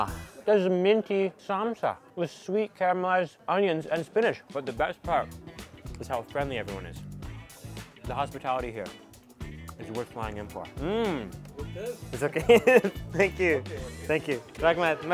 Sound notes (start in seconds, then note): 11.9 foreign language; 12.3 laughing